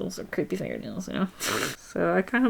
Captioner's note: laughs